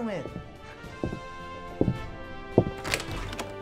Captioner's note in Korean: 발자국 소리